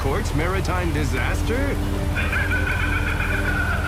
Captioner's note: Riddler laughing